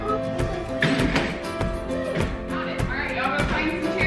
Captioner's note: table scraping on floor